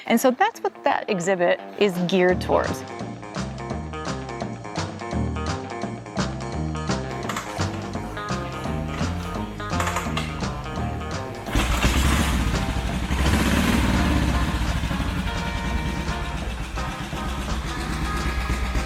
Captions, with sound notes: and so, that's what that exhibit is geared towards. (rock music) (engine revving) (rock music)